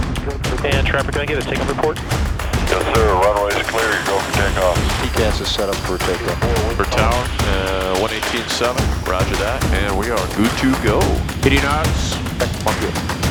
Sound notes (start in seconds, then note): 0.6 radio Communication